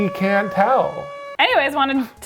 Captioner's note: alarm distorts